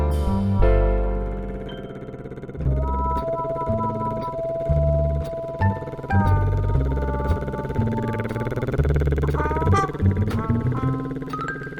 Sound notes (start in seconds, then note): 1.4 engine purring; 3.4 whimsical music